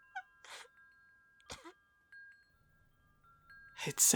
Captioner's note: soft tinkling of wind chimes